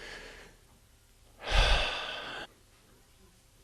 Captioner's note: sighs